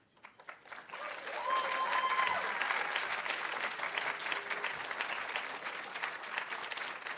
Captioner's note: audience applauding; audience cheering